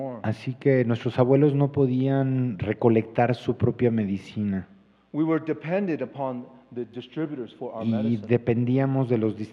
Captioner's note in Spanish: Expositor habla en inglés